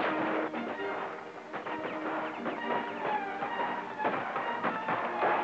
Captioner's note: guns blasting in distance